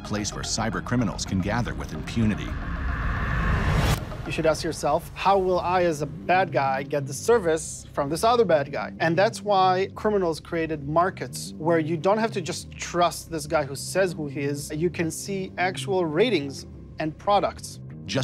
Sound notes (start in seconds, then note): 2.4 air whooshing